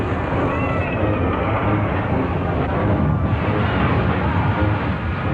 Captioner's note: steam whooshing